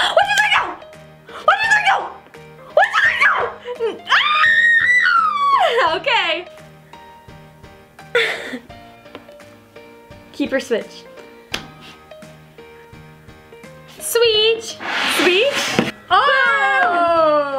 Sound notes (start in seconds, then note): 4.0 screams; 8.1 laughs